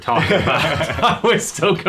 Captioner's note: laughing